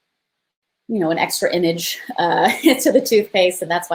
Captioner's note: laughs